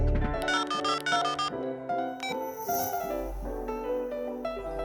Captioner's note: gentle music; gentle electronic tones